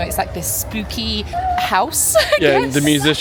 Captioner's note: laughing